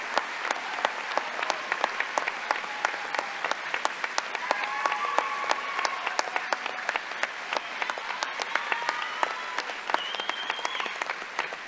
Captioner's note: applause